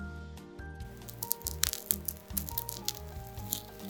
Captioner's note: Crunch